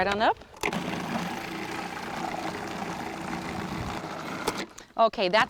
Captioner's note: food processor whirring